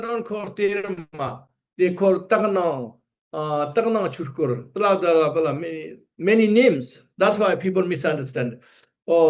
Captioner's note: tibetan